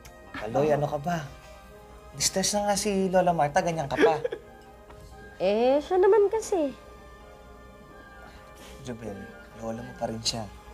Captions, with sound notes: Caloy, come on. Grandma Martha is distressed. [Caloy laughs] Well, it's her fault. Jobel, she's still your grandma.